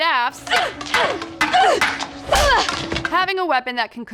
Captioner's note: grunts